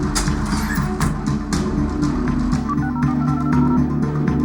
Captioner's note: call ringing